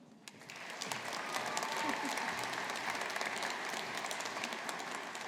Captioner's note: audience applauding